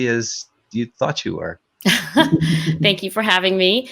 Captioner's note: chuckling